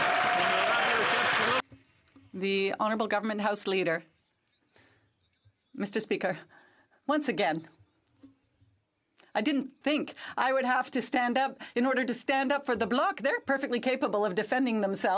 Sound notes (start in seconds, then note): 1.6 some Applause